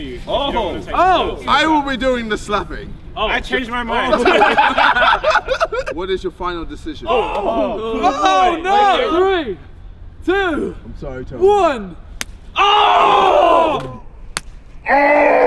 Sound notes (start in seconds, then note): 4.0 laughing; 12.2 slapping; 13.1 yelling